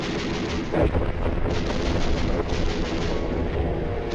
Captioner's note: guns firing; explosion booms